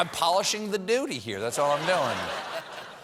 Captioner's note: laughter